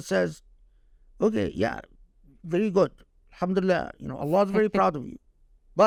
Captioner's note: speaking Arabic; speaking Arabic